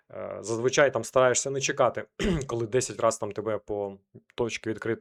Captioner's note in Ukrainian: прочищення горла